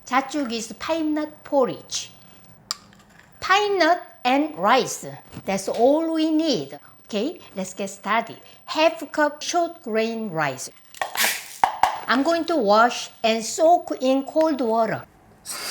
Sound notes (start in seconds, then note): 10.9 rice tapping on plastic